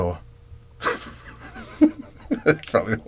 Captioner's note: laughs